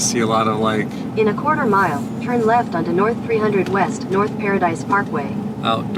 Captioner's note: Google Maps audio directions